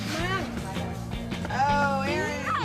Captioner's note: voiceover; kids chattering